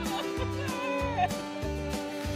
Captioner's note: laughs